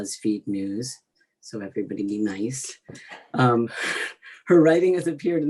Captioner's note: laughs